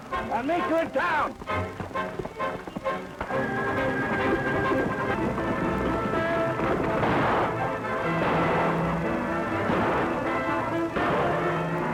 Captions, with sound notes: I'll meet you in town. [gunshots]